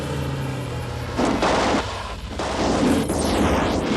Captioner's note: car engines revving; guns firing